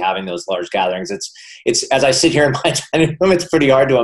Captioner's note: laughing